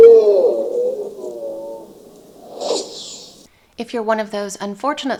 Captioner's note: whoosh